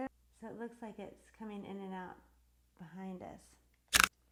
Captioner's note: click